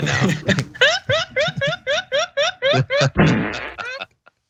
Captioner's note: laugh